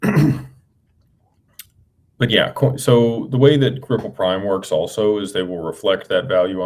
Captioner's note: clears throat